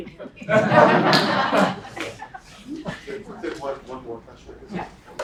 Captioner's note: laugh